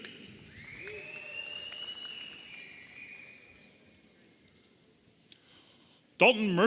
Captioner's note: audience cheering and whistling